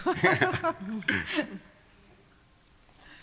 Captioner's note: laughter